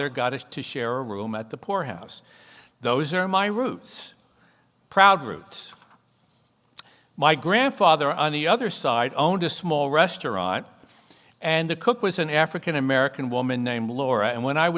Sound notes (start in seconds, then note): none